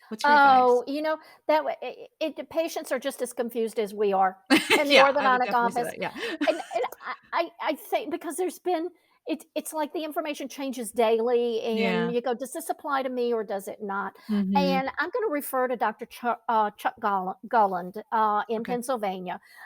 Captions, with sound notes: What's your advice? - Oh, the patients are just as confused as we are- - (laughs) Yeah, I would definitely say that. - In the orthodontic office. - Yeah. (laughs) - Because there's been... It's like the information changes daily. - Yeah. - And you go, does this apply to me or does it not? And I'm gonna refer to Dr. Chuck Gulland in Pennsylvania.